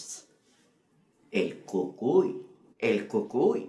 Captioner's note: Spanish